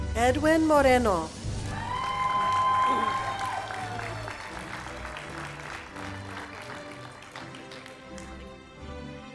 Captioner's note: cheering, Applause, Music